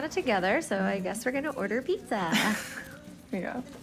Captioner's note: laughs